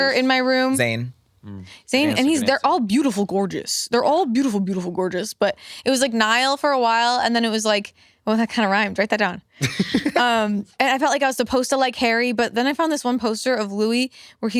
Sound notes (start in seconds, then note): 9.6 laughs